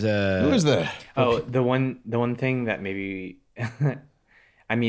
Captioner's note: chuckles